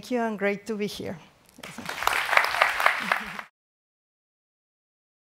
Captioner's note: audience applauds